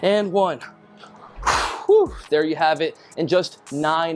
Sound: exhales loudly

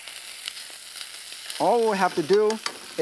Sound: beef sizzles

